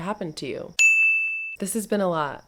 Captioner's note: ding!